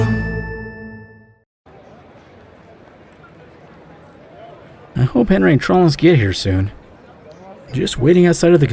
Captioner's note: scene change music; outside ambience